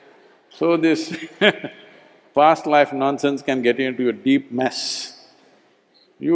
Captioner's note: laughter; laughs